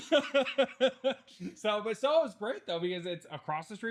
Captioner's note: laughing